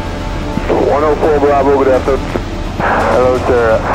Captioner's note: radio chatter